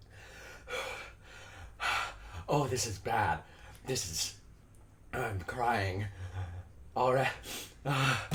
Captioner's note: panting